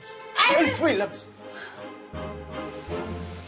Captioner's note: gasps